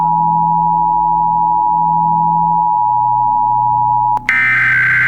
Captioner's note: beeping